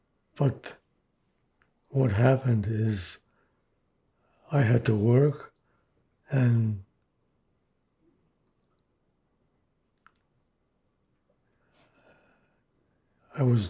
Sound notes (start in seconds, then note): 6.8 pauses 6 seconds